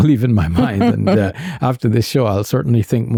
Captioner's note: chuckles